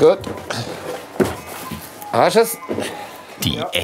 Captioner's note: cuckoo clock sounds in the background